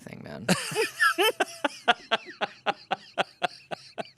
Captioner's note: everyone laughs